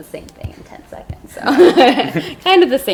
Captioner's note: laughs